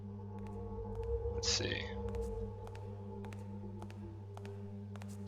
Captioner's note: distant footsteps on stone grow louder